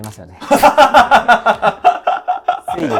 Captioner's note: laughing